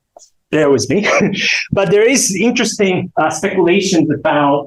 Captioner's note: chuckles